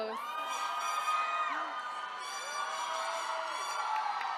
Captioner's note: attendees cheering